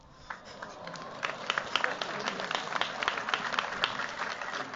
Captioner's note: applause